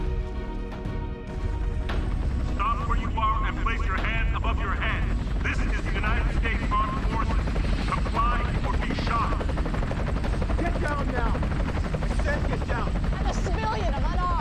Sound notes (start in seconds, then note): 1.2 chopper whirring; 2.4 man over PA